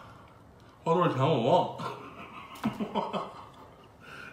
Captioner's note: ha ha ha ha ha